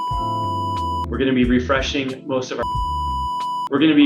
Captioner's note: beep sound; beep sound